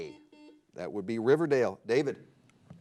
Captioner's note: buzzer blares